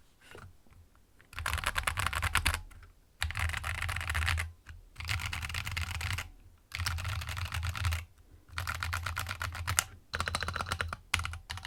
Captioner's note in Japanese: 打鍵音